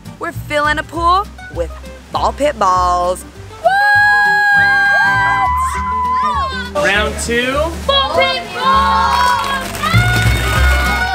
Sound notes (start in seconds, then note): 5.3 yelling